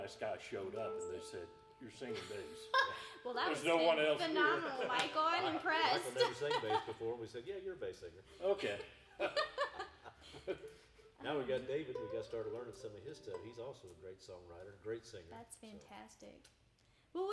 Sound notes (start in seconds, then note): 9.2 everyone laughing